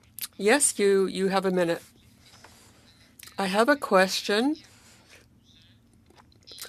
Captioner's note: speaking French